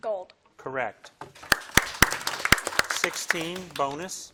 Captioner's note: audience applauding